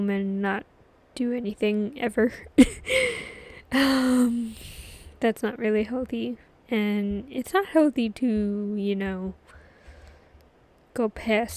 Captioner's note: laughs